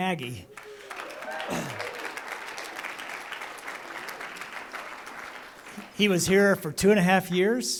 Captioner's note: applause